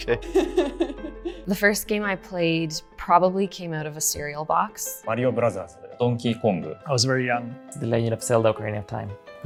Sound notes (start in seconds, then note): 0.2 chuckling